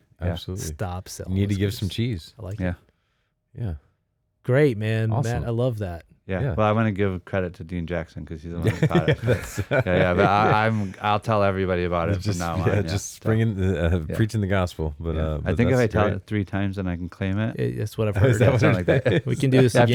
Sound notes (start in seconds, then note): 8.6 laughing